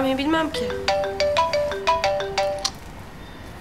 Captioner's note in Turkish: Telefon çalıyor